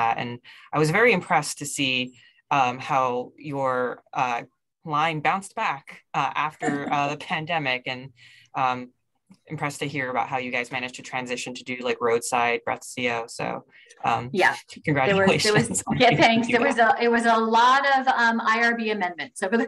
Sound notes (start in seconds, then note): 6.6 laughing